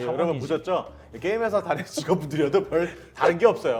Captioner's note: laughing